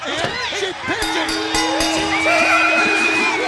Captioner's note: bell ringing